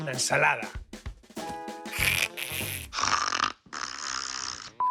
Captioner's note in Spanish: gruñe